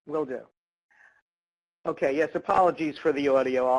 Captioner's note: voiceover